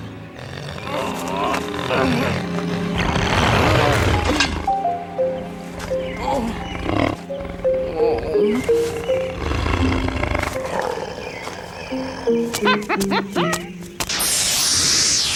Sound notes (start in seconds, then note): 2.8 snarling; 12.3 chuckling